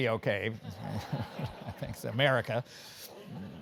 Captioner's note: laugh; laugh